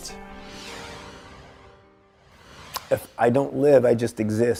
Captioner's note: air whooshing